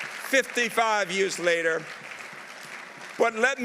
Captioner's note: audience applauding